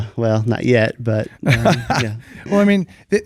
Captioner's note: laughs